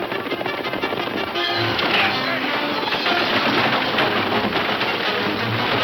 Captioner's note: wagons thundering; bold instrumental music